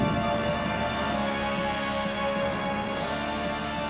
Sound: none

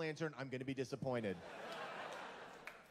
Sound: laughter

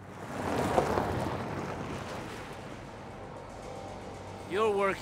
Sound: car driving on gravel

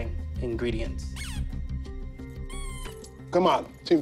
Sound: toy squeaks

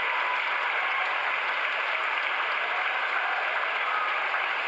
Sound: crowd cheering

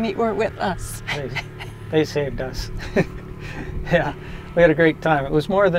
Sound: laughing

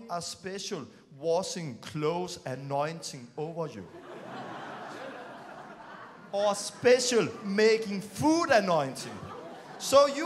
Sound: laughing

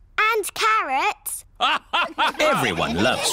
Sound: all laugh

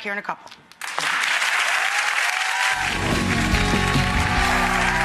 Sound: audience clapping

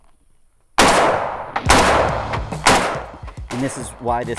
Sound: gun Shots

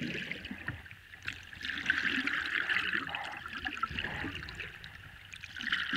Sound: rowing, low intensity

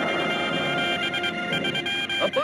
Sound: dramatic orchestral music; ship creaks; machines beeping

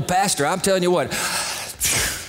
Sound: sighs

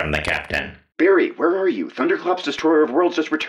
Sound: over coms

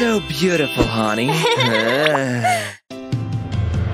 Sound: laughs

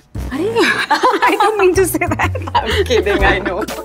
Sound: both laugh

